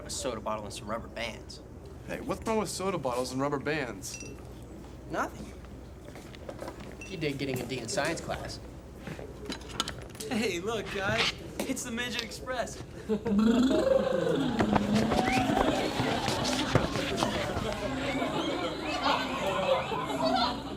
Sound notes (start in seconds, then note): 13.5 make motor sound with mouth; 16.2 classmates laughing